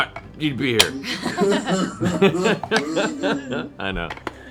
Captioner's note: fake crying